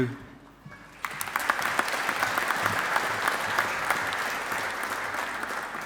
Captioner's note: audience applauding